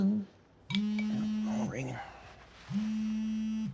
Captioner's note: phone vibrating